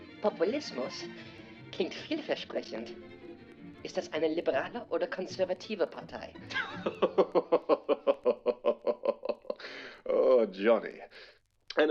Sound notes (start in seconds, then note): 6.5 laughs in German